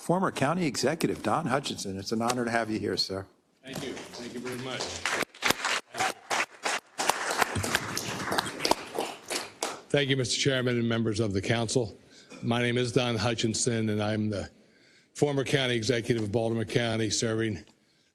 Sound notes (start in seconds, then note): 3.7 applause